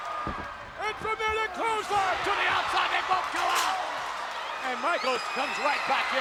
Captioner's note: bodies thudding; audience screaming